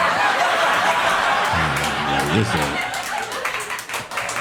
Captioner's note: audience laughing